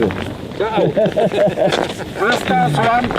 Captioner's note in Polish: śmeich